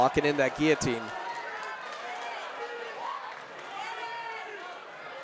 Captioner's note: audience cheering